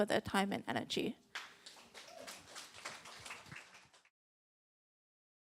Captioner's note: applause